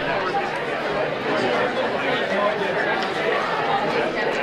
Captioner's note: busy chattering